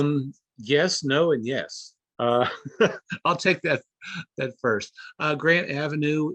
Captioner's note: laughing